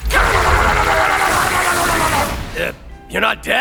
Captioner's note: whacking and grunting